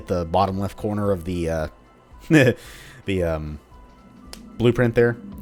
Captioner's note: chuckles